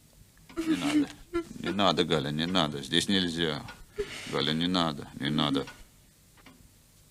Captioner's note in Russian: откашливается